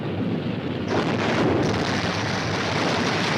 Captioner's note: explosion